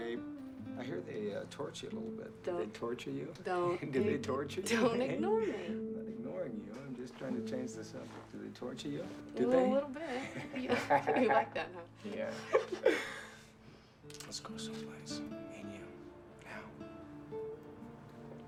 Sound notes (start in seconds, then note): 12.2 laughing